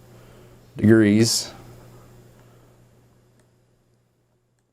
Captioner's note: silence